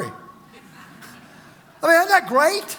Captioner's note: congregation laughs